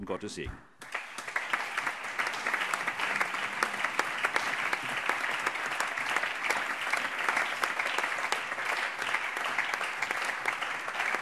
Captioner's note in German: Allgemeiner Beifall